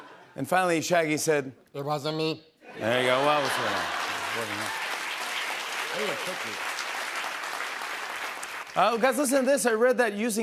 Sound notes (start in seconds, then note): 2.9 laughter; 5.0 cheers and applause